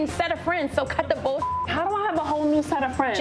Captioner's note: beep